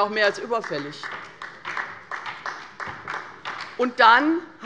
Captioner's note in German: Beifall bei der LINKEN